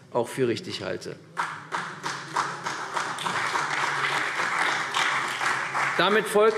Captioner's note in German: Beifall CDU